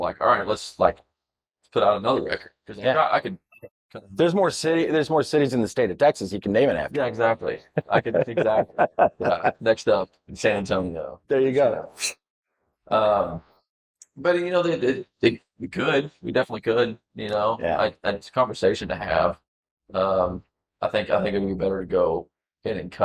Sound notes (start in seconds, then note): 7.6 laughing